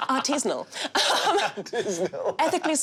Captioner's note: laughs